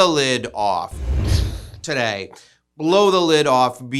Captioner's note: mimics explosion booming